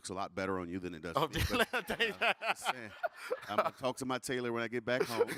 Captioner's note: laughing